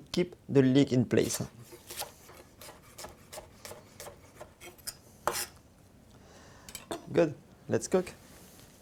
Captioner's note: chopping sounds